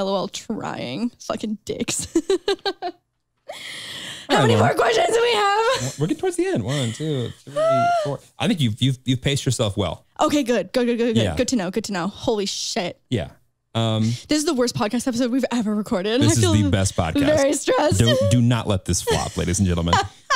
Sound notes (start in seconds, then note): 2.0 chuckles; 19.0 chuckles